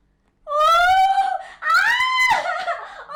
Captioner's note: Molly shrilling